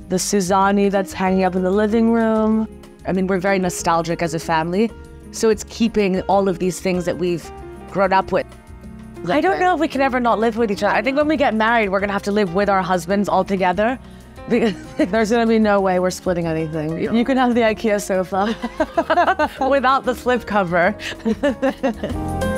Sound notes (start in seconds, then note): 18.5 laughs; 21.7 laughs